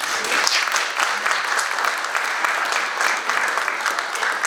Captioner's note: audience applauding